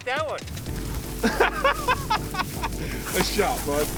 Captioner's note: laughs